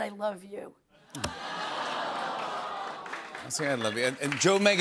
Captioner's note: audience awws